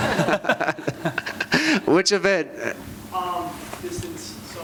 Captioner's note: chuckles